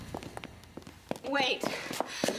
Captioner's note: shoes clicking on floor